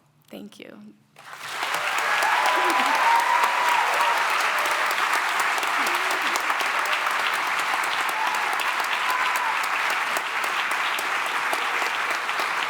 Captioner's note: cheering and applause